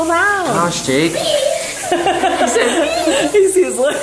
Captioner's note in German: lacht